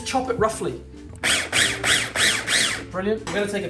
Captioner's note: food processor chopping basil